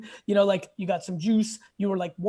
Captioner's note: none